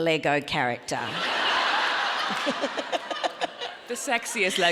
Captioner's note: audience laughing